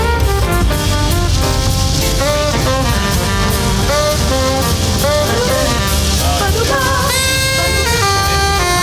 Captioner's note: rain pounds the windshield